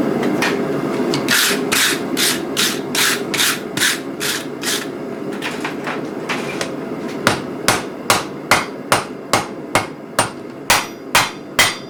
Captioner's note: brushing and hammering steel